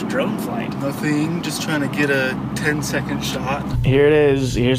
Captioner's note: in a patronizing voice